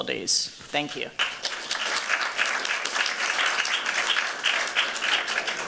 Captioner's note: applause